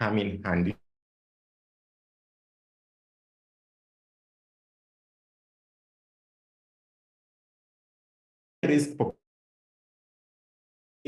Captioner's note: audio cuts off